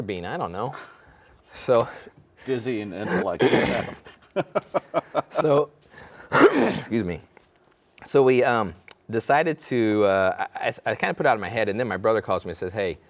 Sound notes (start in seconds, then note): 4.3 laughing; 6.0 coughing